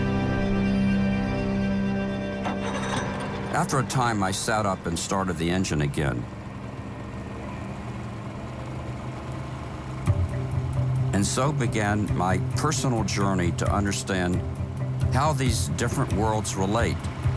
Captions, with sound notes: (boat engine revving) After a time, I sat up and started the engine again. (boat engine whirring) And so began my personal journey to understand how these different worlds relate: